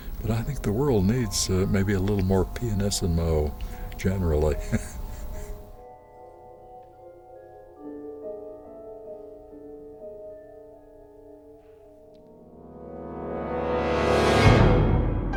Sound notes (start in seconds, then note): 3.9 laughs; 12.4 music intensifies; 15.1 music softens